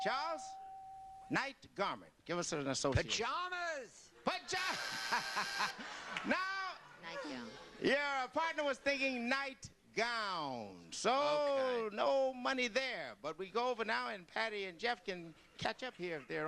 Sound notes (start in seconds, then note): 4.5 laughs; 4.7 buzzer